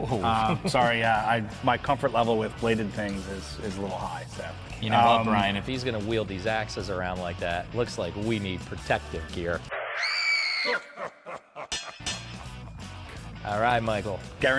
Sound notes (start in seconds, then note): 9.8 screaming; 10.6 ominous laughing